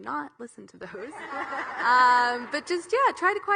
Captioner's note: audience laughing